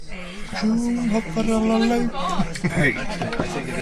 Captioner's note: more swedish noises